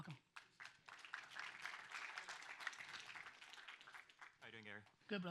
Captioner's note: audience applauds